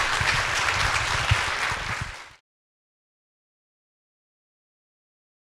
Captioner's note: audience applauding